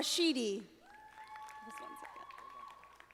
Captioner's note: audience applauding